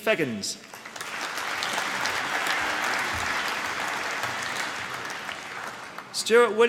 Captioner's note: applause